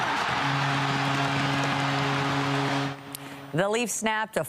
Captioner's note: applause